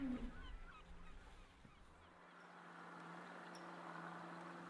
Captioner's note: birds calling